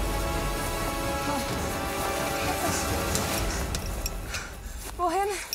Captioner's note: loud breathing